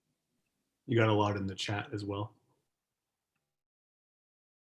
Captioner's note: male Voice